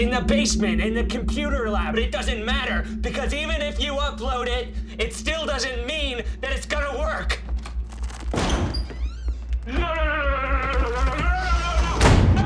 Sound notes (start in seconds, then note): 7.4 door opening